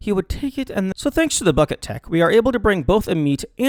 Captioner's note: Return to American accent